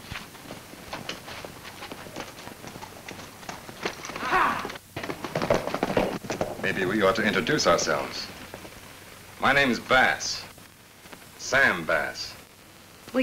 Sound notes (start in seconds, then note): 4.2 men shout